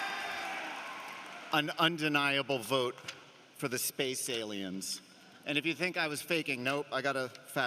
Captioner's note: cheering and applause